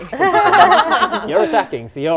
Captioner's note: laughing